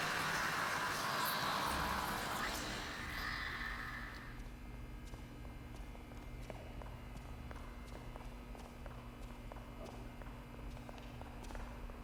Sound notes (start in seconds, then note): 3.5 footsteps tapping; 3.5 lights buzzing